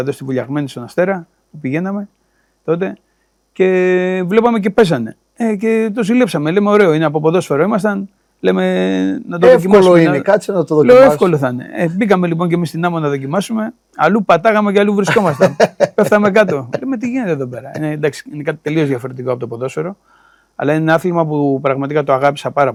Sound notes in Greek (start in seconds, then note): 15.0 γέλια